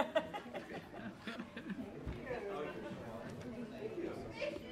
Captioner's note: low chatter